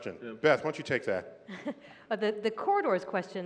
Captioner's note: laughter